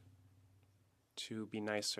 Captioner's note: speaking French